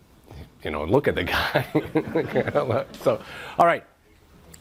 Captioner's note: chuckles